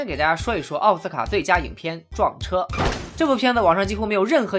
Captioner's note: crash